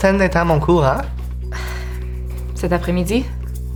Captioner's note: Hoota sighs